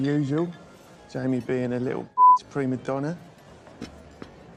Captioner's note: beep